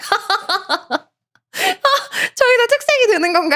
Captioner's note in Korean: 웃음